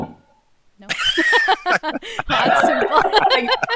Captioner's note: all laugh